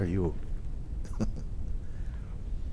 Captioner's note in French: rire